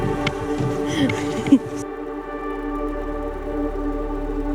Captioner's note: laughs; slow dramatic music